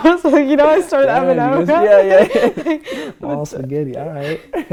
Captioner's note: chattering